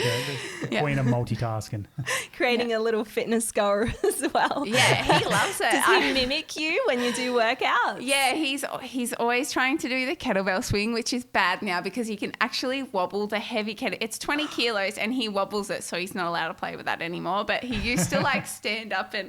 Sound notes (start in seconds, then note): 3.6 laughing